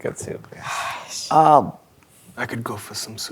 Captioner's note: sighs